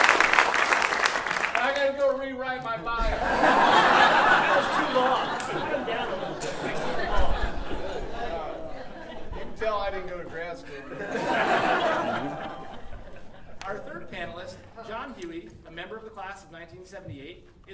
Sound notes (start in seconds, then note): 3.1 audience laughing and clapping; 11.3 audience laughing